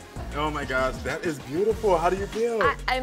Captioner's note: none